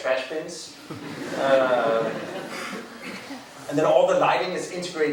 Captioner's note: crowd laughing